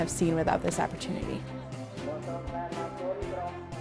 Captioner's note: speaking foreign language